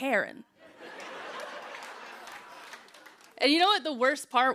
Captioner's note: laughter